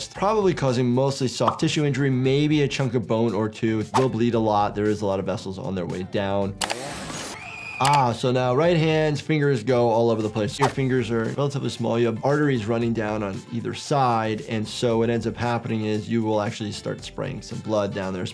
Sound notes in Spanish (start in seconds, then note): 6.6 sierra acelerando; 7.3 Mia grita